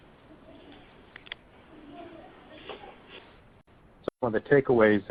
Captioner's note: silence